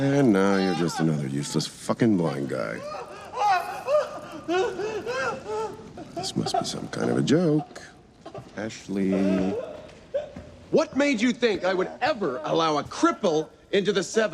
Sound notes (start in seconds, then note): 2.7 screaming continues